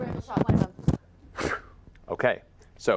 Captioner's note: dagger throwing noise